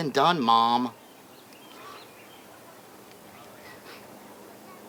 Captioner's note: birds chirping